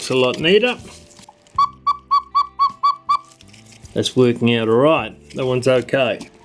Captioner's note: cuckoo sound